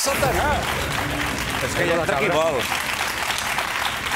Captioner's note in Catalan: aplaudiments